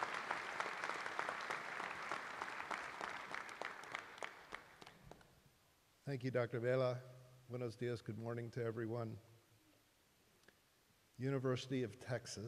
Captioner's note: applause